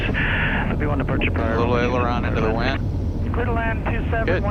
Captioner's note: radio chatter